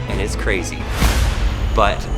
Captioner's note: slam